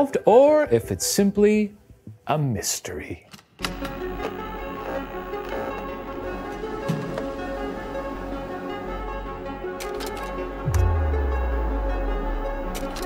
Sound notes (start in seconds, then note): 3.6 ominous music; 9.6 slides clicking